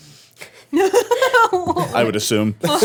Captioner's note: laughing